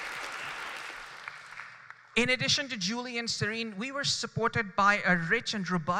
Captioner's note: applause